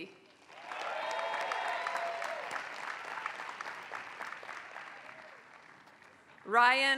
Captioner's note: applause